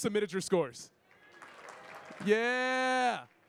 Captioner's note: audience clapping and cheering